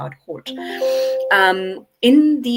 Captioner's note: windows chiming